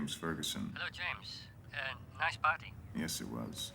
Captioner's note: in English